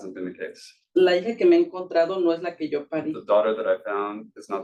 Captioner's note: speaking Spanish